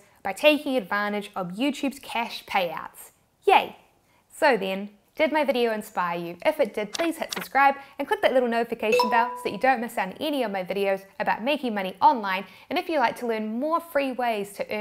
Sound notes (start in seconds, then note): 8.9 electronic ring